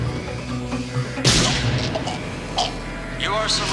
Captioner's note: gunshot